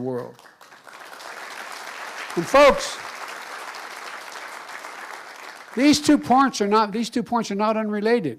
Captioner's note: applause